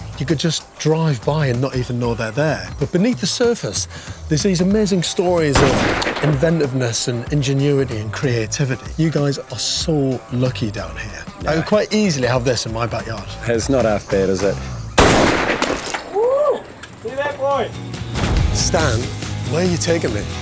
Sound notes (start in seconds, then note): 15.0 gunshot